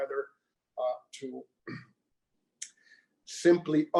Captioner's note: clears throat